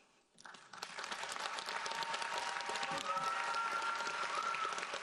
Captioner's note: audience applauds